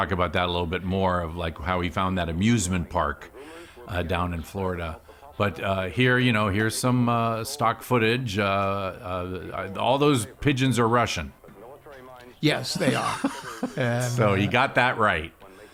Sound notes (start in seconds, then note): 12.7 laughing